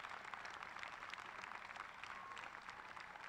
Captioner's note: applause